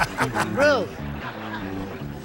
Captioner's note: laughter